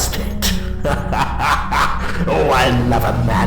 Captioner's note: laughter